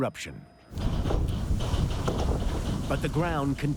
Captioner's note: ground shaking